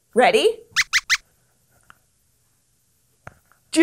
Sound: squeaks squeaks

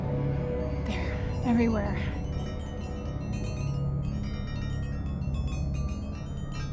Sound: bell chiming

